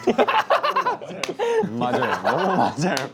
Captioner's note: intense relatable laughter